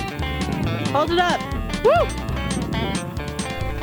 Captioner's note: cheer